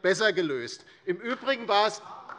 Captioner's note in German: Beifall DIE LINKE